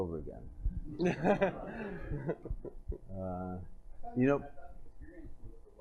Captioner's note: laughter